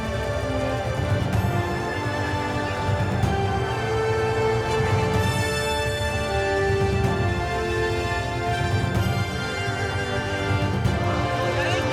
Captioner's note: crowd cheers